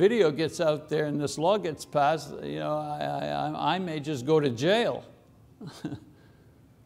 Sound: chuckles

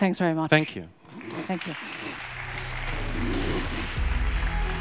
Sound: audience applauds; uplifting music

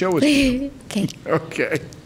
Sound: softly laughs

